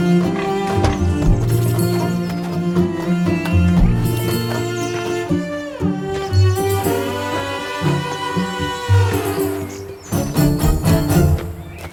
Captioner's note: birds; pigs grunting